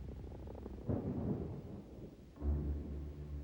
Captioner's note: distant explosion